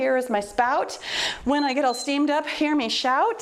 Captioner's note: timer beeps